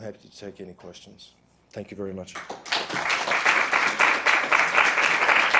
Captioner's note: group clapping